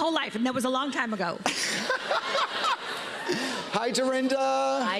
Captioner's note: laughter